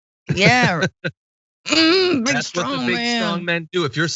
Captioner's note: laugh